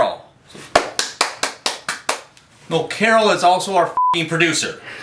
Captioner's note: claps